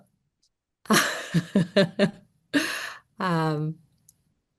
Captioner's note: laughter